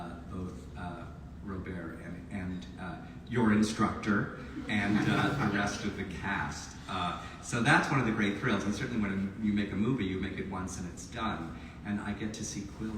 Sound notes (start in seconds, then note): 4.4 audience laughs